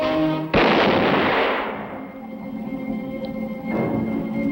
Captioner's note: gunshot